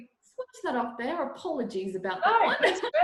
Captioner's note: laughs